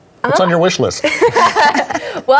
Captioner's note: everybody laughs